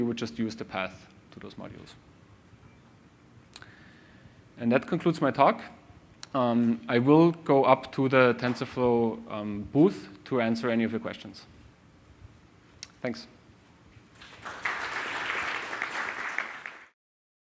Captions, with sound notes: would just use the path to those modules. And that concludes my talk. I will go up to the TensorFlow booth to answer any of your questions. Thanks. [CLAPPING]